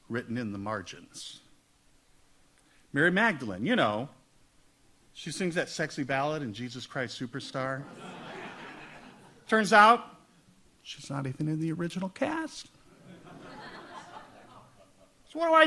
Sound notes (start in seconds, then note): 7.8 audience laughs; 12.9 audience laughs